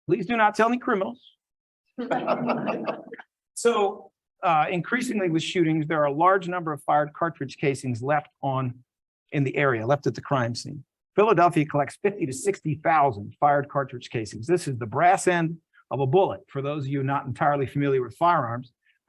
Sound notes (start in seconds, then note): 2.0 laughs